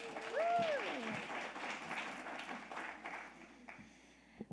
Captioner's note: audience applauding